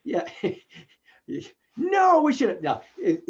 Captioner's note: laughing